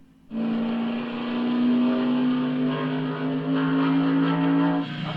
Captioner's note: race car screeches around the track